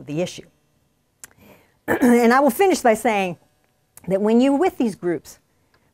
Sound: cough

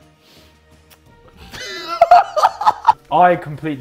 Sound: JJ laughing

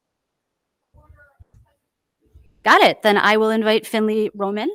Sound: speaking faintly off mic

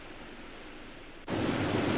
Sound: water roars

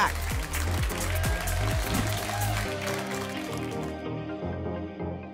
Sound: applause and cheering cont

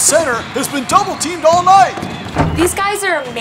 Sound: basketball shot

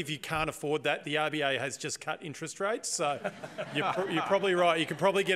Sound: laughter

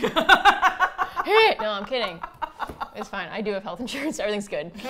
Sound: laughs

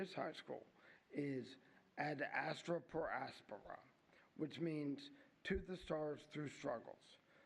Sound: �speaking latin�

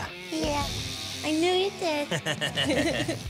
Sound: both laughing

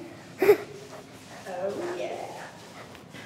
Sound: laughs

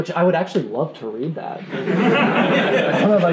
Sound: laughing

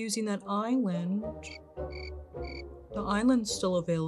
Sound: crickets chirping

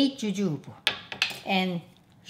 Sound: tool thuds

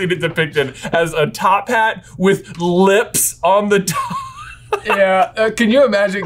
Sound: laughs

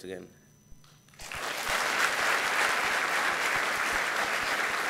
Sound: gathering clapping

